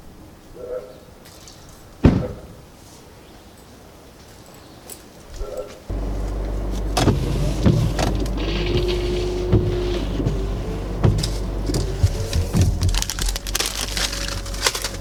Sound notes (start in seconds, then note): 4.0 car door slams; 9.8 wipers whirring